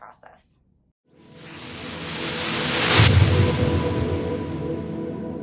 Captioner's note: whooshing